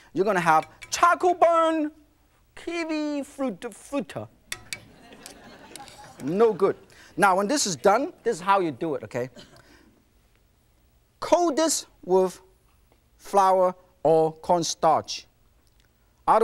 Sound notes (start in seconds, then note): 5.0 laughing